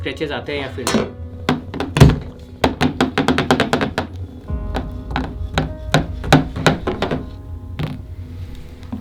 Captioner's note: scratching by metal